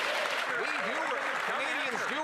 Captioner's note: cheers & Applause